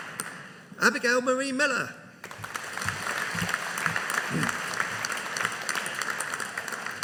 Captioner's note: audience applauding